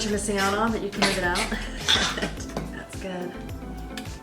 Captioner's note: laughs